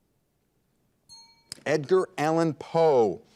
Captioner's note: bell rings